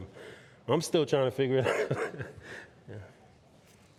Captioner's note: laughing